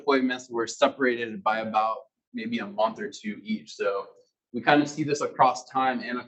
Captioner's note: male Voice